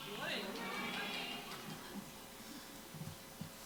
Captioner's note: crowd